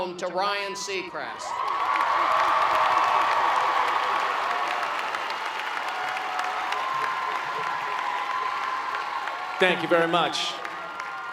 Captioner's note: cheering and Clapping